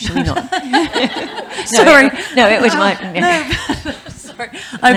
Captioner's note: laughing